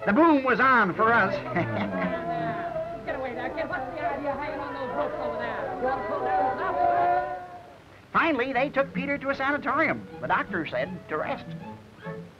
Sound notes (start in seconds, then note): 0.8 TB laughs; 2.7 TB gang cheering